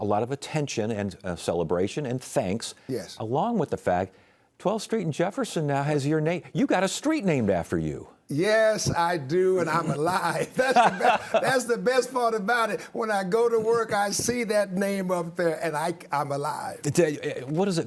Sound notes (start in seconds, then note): 9.3 laughs